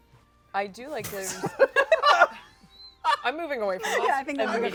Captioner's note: laughter